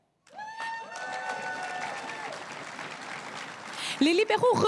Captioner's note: crowd cheering and applauding